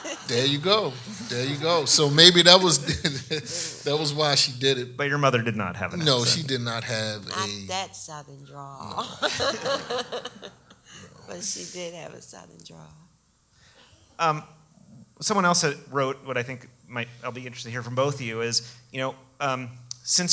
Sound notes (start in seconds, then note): 0.0 audience laughs; 10.9 laughs